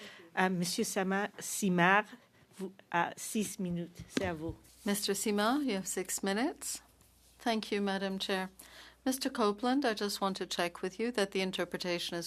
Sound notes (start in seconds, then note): 8.0 speaking French